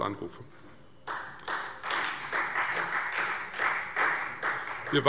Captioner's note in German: Beifall Freie Demokraten